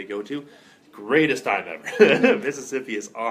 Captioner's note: laughter